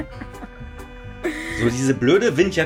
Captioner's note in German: gelächter